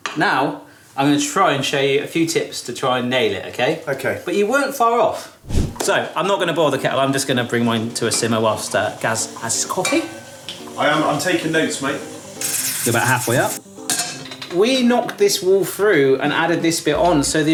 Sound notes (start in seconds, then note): 5.4 screen wipe whooshes; 12.2 water rushing